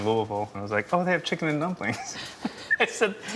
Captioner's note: laughs